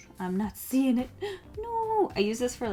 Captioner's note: gasp